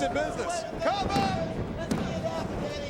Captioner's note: mat slapping